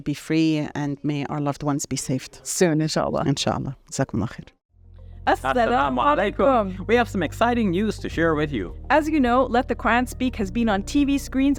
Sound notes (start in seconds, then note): 4.2 speaks Arabic; 5.3 uplifting piano music